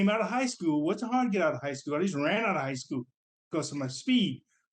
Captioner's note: Tommie mumbling